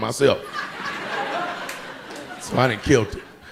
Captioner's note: audience laughing